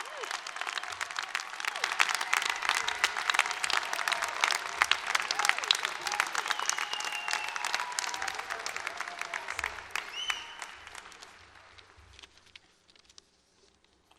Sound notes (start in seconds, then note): 0.9 applause; 4.4 cheering